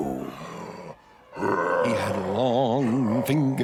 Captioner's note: Abiyoyo grunting